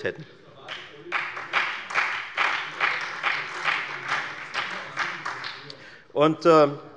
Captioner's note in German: Beifall bei der FDP und der SPD